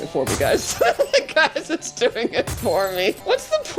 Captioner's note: laughing